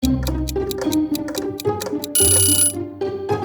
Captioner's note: timer ticking; whimsical music; timer rings